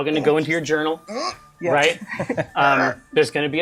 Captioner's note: repressed grunt